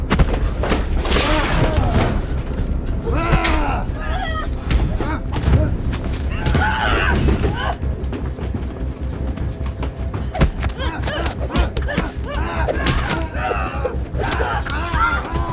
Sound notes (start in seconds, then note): 0.0 thudding; 3.0 both groaning; 10.2 slapping; 10.7 both shrieking